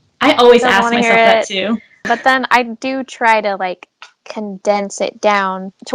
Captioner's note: laughs